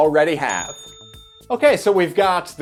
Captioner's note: bell dings